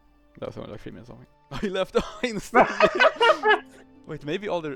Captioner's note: hahahaha